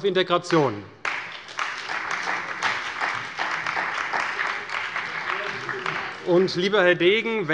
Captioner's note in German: Beifall bei der CDU und dem BÜNDNIS 90/DIE GRÜNEN